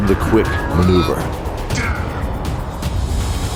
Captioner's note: roar then laughing